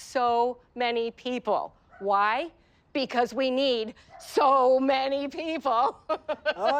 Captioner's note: laughs